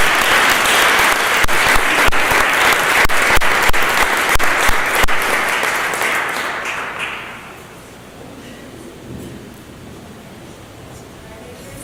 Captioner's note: applause